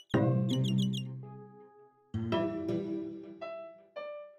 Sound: birds chirp in the background

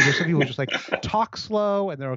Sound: laughs

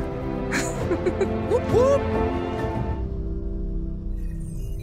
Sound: laughter

